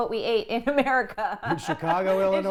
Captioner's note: laughter